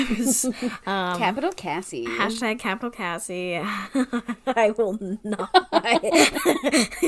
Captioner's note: laughing